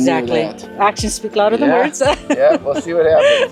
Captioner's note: laughs